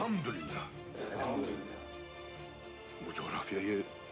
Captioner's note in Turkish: Hep bir ağızdan